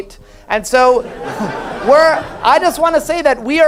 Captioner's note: audience laughs